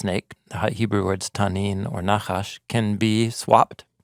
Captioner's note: speaking in Hebrew